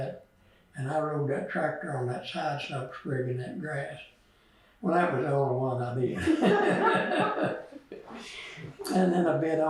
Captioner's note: laughter